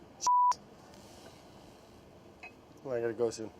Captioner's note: beeping